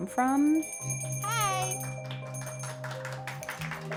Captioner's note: bell ringing; crowd clapping